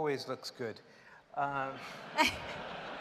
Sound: laughter

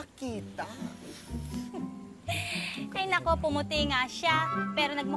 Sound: chuckles

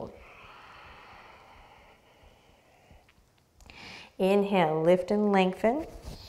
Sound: deep breath

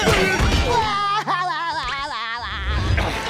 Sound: laughing

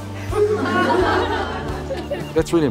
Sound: students laugh

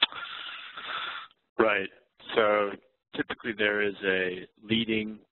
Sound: voiceover

